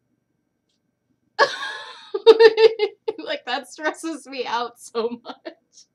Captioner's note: crazy stress shakes plus laughter